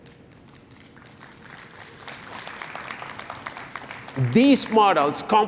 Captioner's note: applause